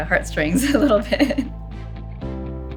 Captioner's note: laughs